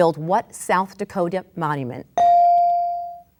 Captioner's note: bell dings